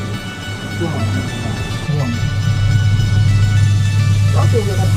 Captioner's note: new age music; muffled chatter